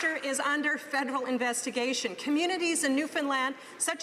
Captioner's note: some Applause